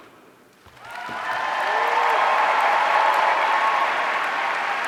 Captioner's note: audience cheering